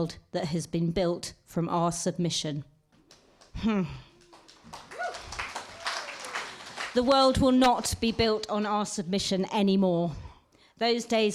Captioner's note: applause